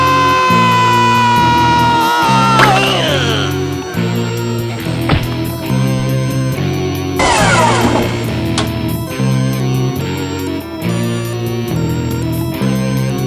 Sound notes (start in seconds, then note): 2.7 gurgles; 7.2 dumbwaiter groaning; 10.6 tense music